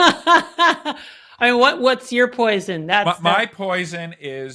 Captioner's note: laughs